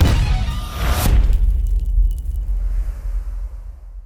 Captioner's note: impact